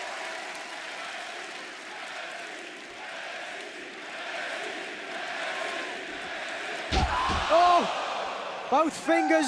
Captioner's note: crowd cheering